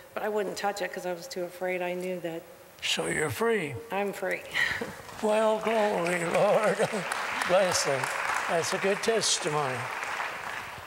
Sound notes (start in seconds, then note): 4.7 laughter; 5.6 applause; 6.5 giggles